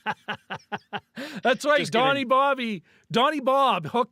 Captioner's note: laughing